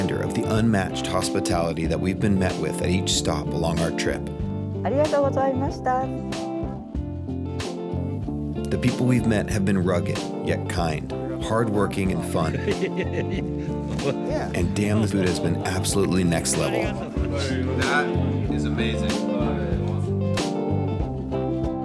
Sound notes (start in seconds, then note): 5.0 woman speaking Japanese; 11.4 people laughing; 19.0 upbeat music